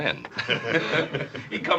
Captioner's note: all chuckling